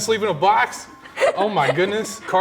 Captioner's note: giggles